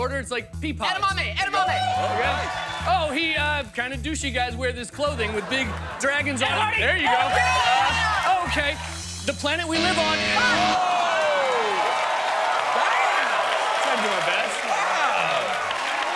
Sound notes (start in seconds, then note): 9.7 cheers and applause; 9.7 buzzer sounds